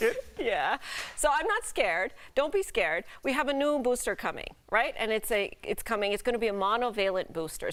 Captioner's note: laughter